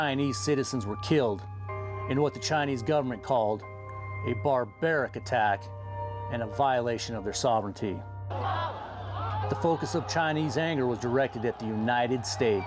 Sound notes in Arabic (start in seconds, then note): 6.6 المتظاهرون يهتفون; 11.6 المتظاهرون يهتفون